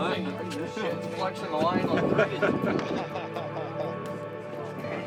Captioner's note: man laughs